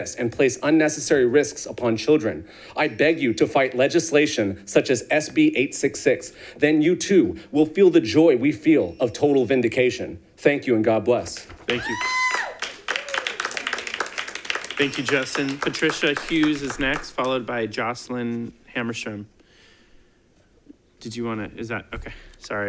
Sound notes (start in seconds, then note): 11.6 audience applauding